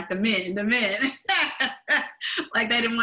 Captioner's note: laughs